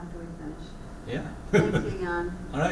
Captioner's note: laugh